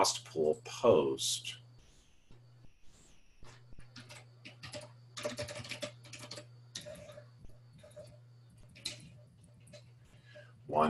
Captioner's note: typing Sounds